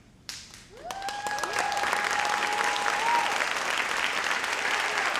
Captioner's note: audience cheers and applauds